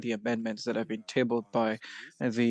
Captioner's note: speaking French